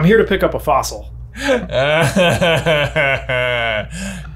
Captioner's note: laughs